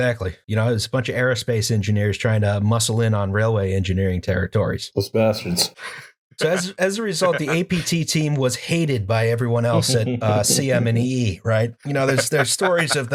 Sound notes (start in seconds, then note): 7.2 laughter